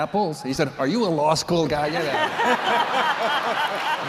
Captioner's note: laughter